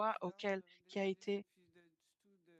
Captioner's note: speaking French